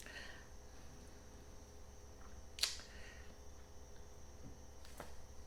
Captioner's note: insects chittering